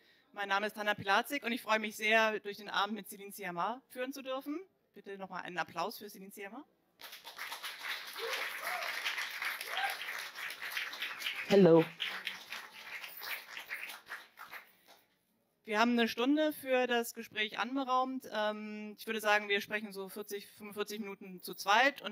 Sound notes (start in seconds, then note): 7.0 Applause and Céline make a sign to say hi